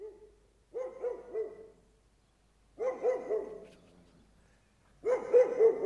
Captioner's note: barking dog, outside